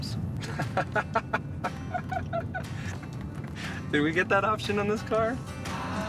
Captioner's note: laughing